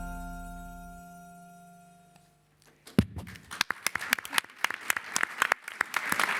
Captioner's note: applause